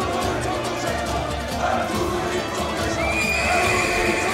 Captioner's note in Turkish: Hep bir ağızdan; At kişneme sesi; Hep bir ağızdan